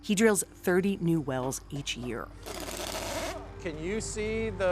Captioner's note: tool buzzing